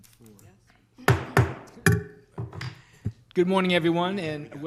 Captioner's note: banging